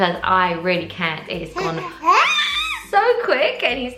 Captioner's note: baby wails